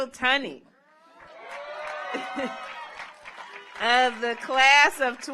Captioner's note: audience cheers; audience applauds